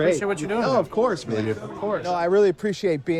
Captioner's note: none